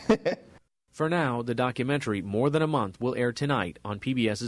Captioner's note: laughter